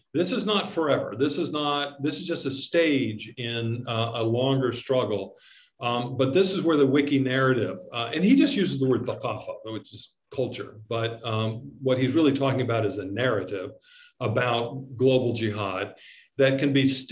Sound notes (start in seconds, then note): 9.1 speaks in Arabic